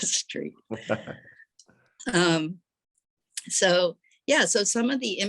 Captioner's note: chuckle